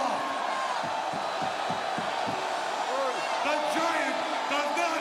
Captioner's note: crowd boos